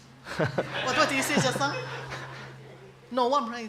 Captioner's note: laughter